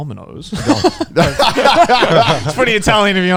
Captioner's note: group laughs